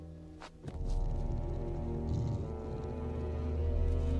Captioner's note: bear breathing heavily; moves to deep foreboding music